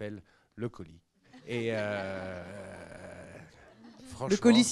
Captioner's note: laughs